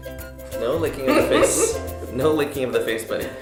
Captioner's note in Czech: smích